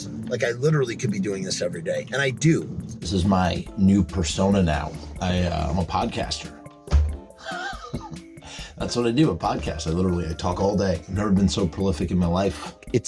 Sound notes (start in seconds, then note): 6.8 hand slams on table with chuckling